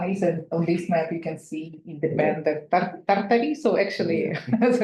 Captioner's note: speaks in foreign language